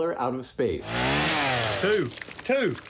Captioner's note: chainsaw sound